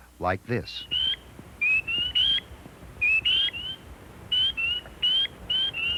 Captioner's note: sound of the spring peeper frog